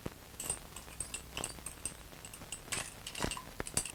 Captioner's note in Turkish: bulaşik tabak çanak sesleri̇